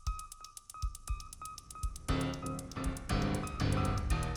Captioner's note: none